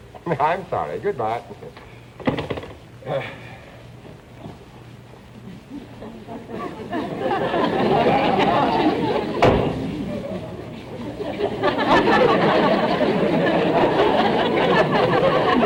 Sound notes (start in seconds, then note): 2.2 phone clicking into receiver; 7.0 audience laughter; 9.4 door slams; 11.5 audience laughter